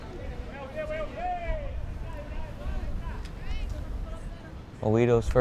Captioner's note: fans yelling